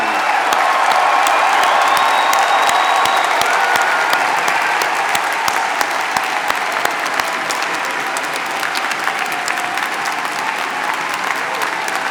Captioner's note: applause